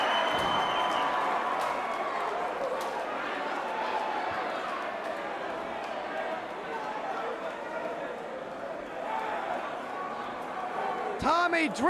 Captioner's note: crowd cheering